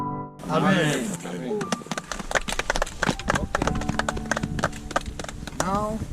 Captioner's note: applause